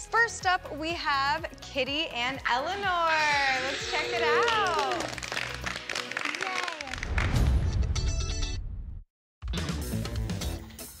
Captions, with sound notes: First up, we have Kitty and Eleanor. Let's check it out. [applause] [80s music]